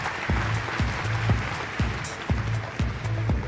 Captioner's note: applause